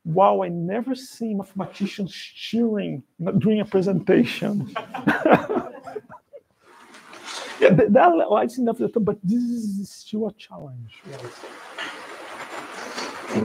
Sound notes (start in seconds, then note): 4.7 laughter